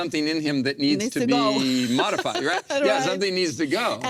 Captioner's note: laughs